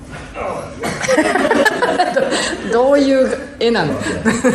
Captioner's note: laughing